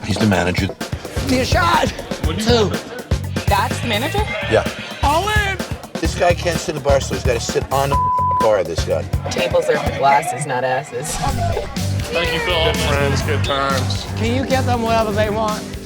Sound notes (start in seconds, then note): 7.9 beep; 11.5 laughing